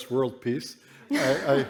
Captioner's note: laughter